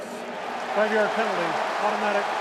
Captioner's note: cheering